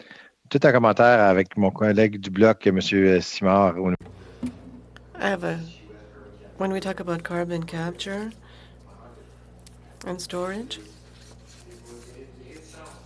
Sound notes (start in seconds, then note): 4.7 speaking French